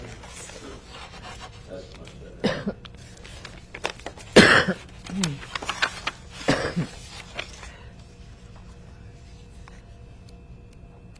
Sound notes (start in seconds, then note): 4.0 coughing